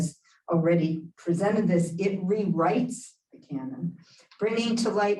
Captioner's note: Hebrew